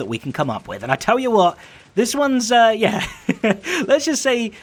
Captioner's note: chuckles